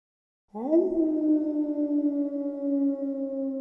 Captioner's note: wolf howling